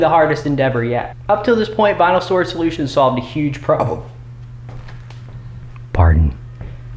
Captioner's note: burps